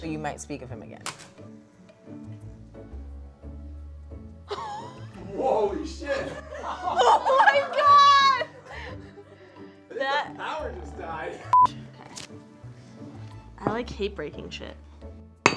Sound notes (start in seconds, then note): 4.5 laughs